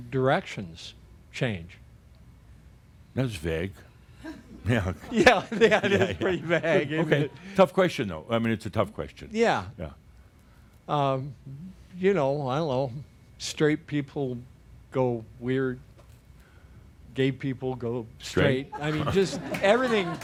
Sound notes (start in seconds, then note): 4.2 chuckles; 18.8 some chuckles